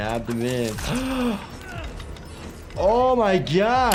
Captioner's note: gasps